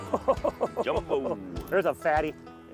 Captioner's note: laughs